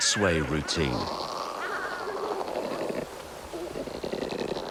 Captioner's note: birds chattering